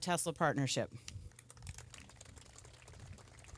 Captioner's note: applause